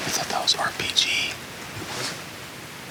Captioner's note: whispers